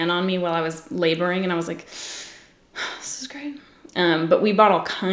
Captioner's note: inhales sharply